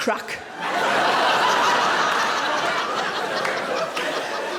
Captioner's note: audience laughing